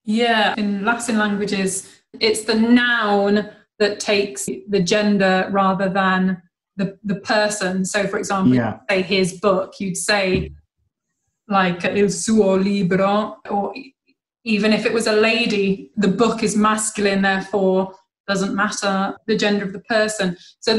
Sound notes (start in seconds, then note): 8.6 in Italian